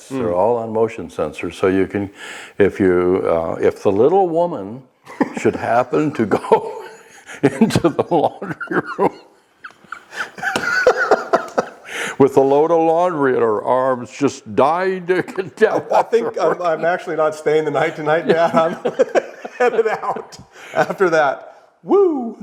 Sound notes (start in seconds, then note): 9.6 laughing; 15.2 cracks up; 22.2 laughing